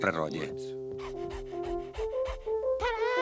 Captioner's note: panting